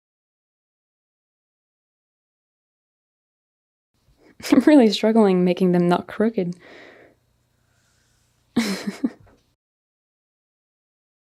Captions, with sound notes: I'm really struggling making them not crooked. (chuckles)